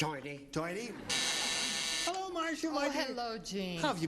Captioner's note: buzzing